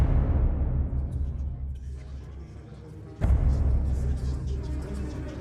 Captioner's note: voices echoing